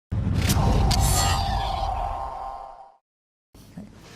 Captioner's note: logo whooshing